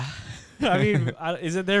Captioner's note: laughing